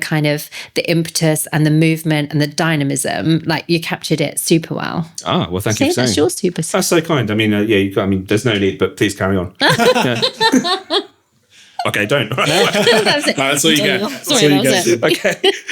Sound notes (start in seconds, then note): 9.6 laughter